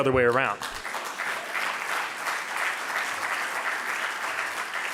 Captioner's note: audience applauding